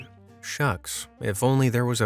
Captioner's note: next sentence read sarcastically